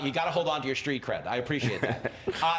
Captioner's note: laughter